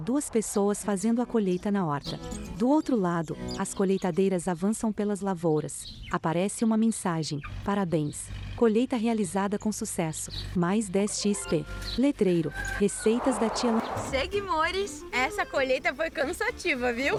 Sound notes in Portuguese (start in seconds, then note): 3.9 Pássaros; 10.6 Galo cantando